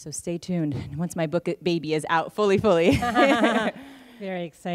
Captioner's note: laughter